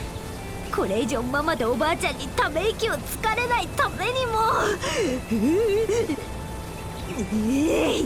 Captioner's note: shiver